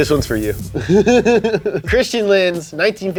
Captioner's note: laughs